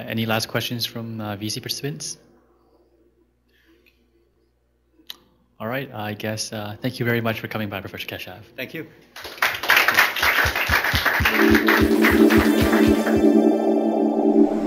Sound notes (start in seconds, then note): 4.2 pause; 9.1 applause; 11.2 techno music